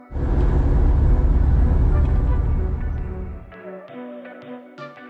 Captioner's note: road noise starts and then fades out